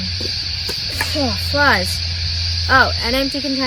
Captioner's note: blusters